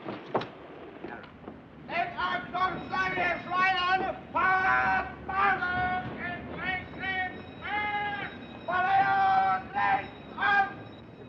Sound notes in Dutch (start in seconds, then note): 1.9 soldaat geeft bevelen in het Duits